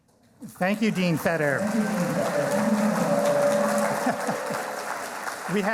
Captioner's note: cheering and applauding; laughing